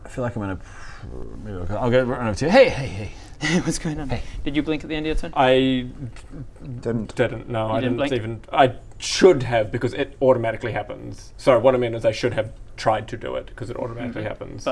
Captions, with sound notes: I feel like I'm in a pr... maybe I'll run over to you hey hey hey Hey what's going on? Did you blink at the end of your turn? I...*splutters* didn't - didn't no I didn't even - You didn't blink? I should have because it automatically happens sorry what I mean is I should have tried to do it because it automatically happens